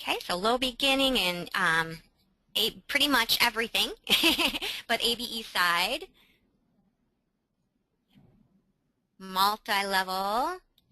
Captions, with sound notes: Okay, so low-beginning in pretty much everything (laughs), but ABE side, multi-level,